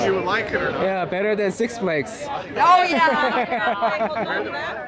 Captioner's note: haha